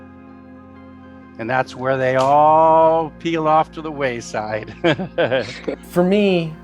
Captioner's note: laughs